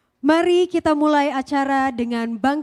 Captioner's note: speaking indonesian